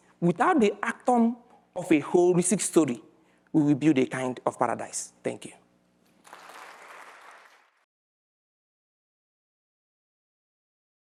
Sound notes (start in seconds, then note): 6.2 audience clapping